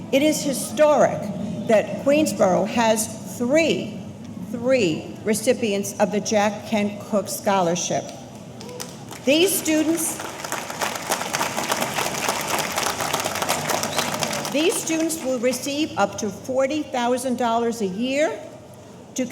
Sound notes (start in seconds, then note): 10.4 audience applauding